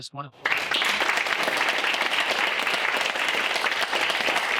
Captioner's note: audience applauding